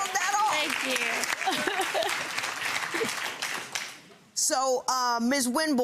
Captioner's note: audience applauding